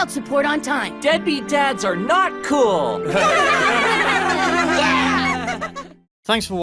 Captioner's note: everyone laughs